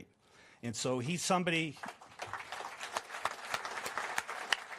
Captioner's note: applause